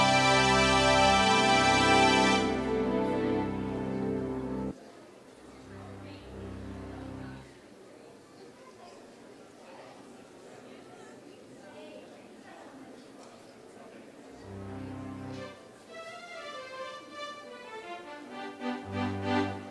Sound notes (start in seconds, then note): 6.1 background chatter; 14.5 jazzy piano music